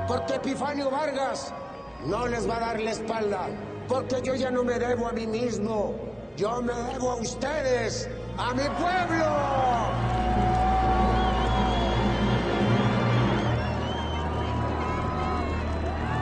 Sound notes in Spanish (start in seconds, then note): 10.1 Aclamaciones